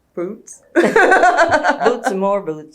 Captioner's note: laughter